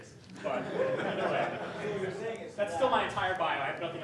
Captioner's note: laughing